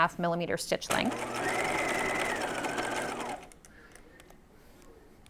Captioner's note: sewing machine whirring